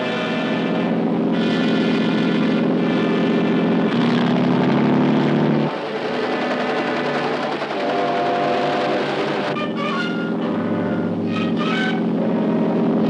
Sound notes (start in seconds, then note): 0.4 motor roaring; 6.2 helicopter whirring; 10.1 motor roaring